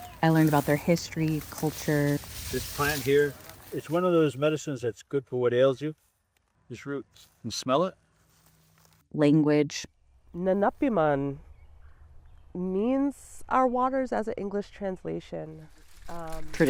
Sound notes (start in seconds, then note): 10.4 speaking Indigenous language